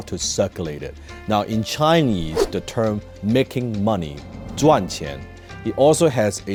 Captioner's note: speaks Chinese